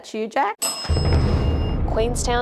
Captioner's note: bell